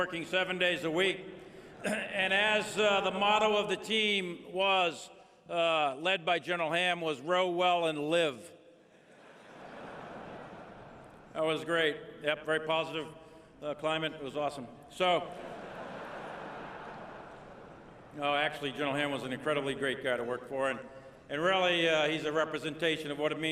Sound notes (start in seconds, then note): 1.9 laughter; 11.2 laughter; 15.3 laughter